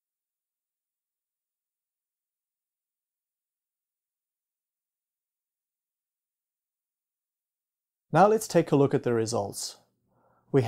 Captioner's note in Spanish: sin_audio